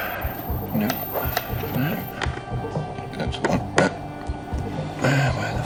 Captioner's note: muttering